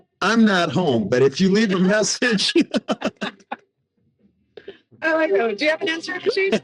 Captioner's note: laughing